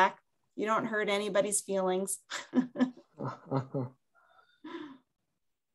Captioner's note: chuckling